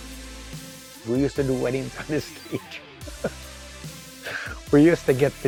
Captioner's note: chuckle